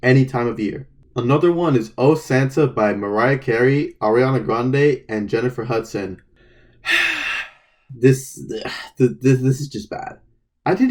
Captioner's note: sighs